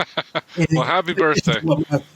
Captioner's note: chuckling